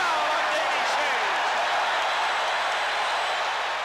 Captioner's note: crowd cheering